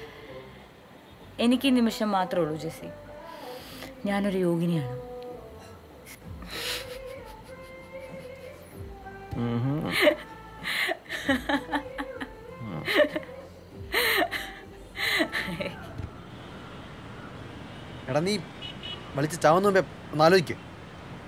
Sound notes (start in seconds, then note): 9.9 Maanu laughing